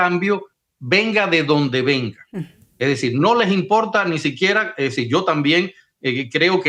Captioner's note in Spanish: carraspeo